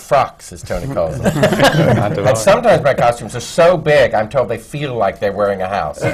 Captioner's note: laughter